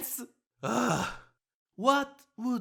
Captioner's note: yang sighs